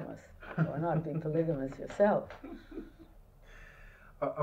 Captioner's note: laughter